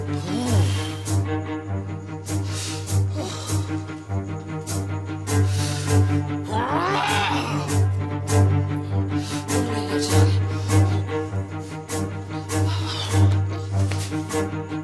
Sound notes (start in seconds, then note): 2.1 breathing heavily